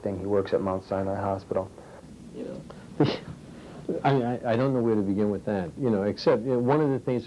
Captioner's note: scoffs